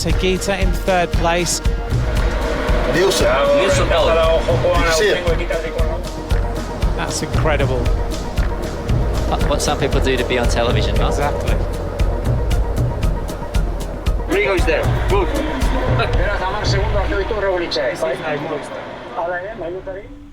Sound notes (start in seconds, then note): 16.0 commentator speaking Spanish